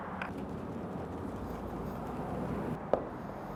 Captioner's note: liquid shaking